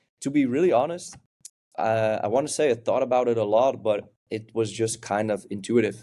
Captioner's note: lips smack